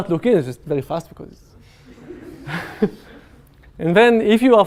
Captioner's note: laughter